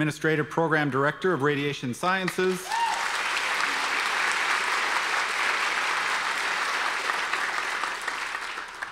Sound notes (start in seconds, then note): 2.5 audience applause